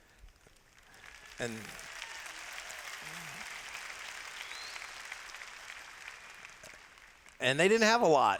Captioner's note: applause